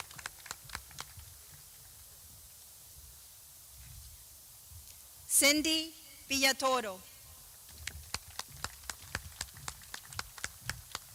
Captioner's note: clapping